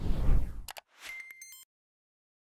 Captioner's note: soft whooshing; light beeping